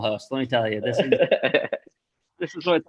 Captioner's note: chuckles